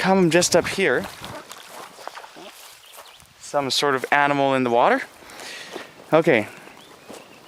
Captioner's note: there's a splashing sound